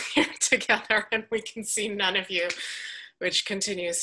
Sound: chuckles

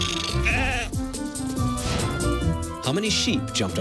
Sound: snake rattles; sheep bleats

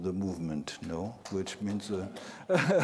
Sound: laughter

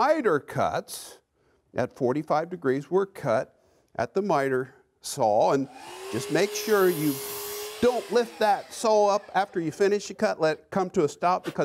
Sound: saw cutting

